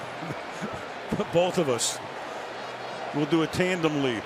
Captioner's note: laughs